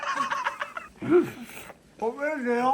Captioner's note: slurping noises